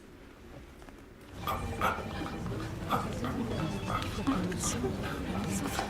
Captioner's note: panting